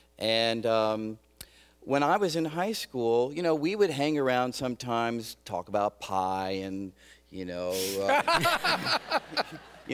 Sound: laughter

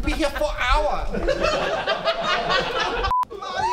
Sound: laughing

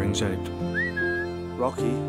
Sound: whistle

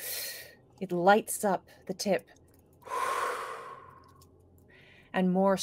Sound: exhales

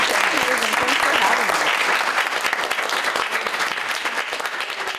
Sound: applause

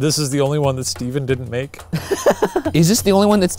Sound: laughs

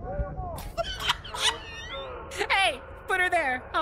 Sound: laughter

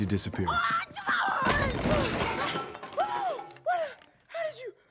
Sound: yelling

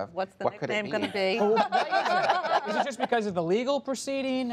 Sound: laughter

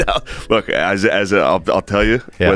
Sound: laughter

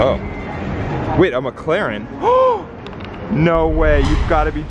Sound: gasps

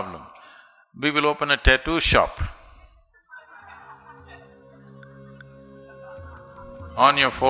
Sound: laughter

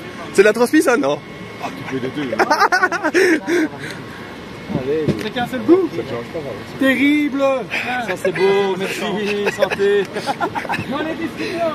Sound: laughs

